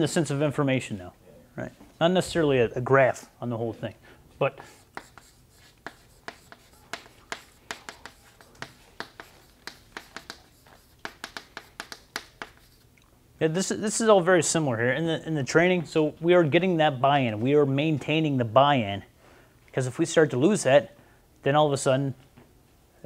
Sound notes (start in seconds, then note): 4.7 chalkboard writing